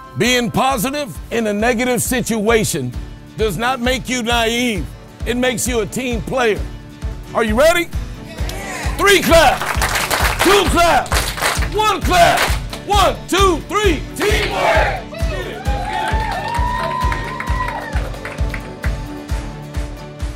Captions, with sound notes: Being positive, in a negative situation, does not make you naive. It makes you a team player. Are you ready? Three claps. [Claps] Two claps. [Claps] One clap. [Claps] One, two, three, teamwork.